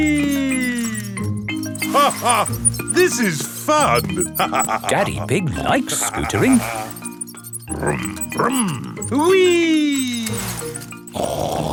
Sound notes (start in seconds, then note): 2.3 laughs